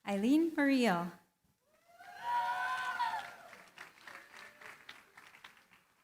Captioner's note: cheering, applause